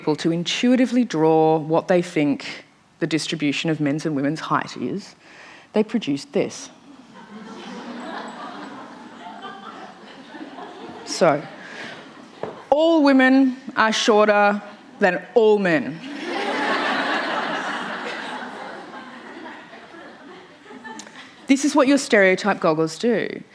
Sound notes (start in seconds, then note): 6.8 audience Reactions, gasps, laughter; 16.0 laughter